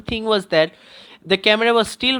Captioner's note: breathes